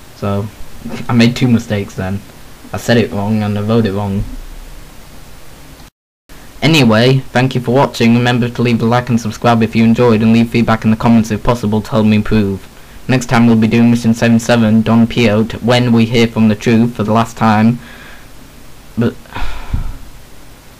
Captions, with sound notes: So...I made two mistakes then. I said it wrong and I wrote it wrong! Anyway, thank you for watching, remember to leave a like and subscribe if you enjoyed and leave feedback in the comments if possible to help me improve. Next time we'll be doing Mission 77, Don Peyote, WHEN we hear from the Truth for the last time... Bu- [sigh]